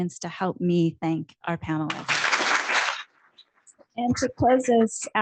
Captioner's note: clapping